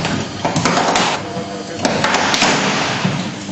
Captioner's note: indistinguishable chatter from spectators